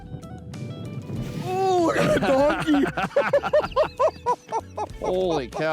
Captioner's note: men laughing